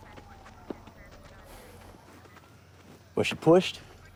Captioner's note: sighs